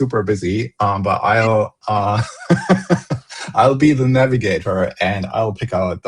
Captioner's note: laughter